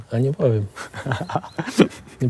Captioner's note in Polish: śmiech